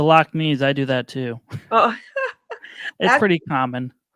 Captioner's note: laughing